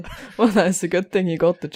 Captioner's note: Rik laughs; chuckles